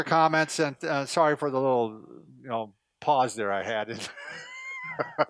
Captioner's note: laughs